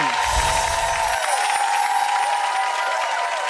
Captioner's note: chimes; applause